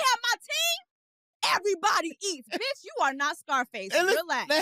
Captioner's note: laughs